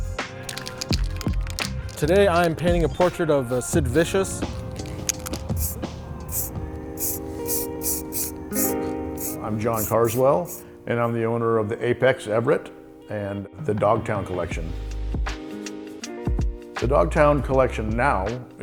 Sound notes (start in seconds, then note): 0.1 can rattling; 4.5 can spraying